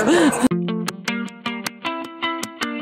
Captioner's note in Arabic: كريستال يضحك